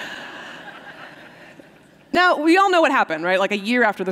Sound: laughter

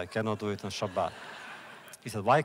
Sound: laughter

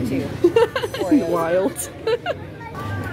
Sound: laughing

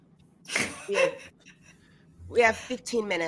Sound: all laughing

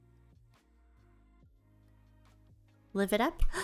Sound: gasp

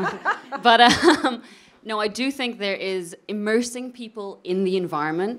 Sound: chuckles

